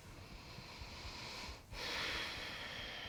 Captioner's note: inhaling